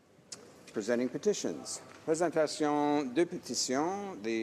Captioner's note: speaking French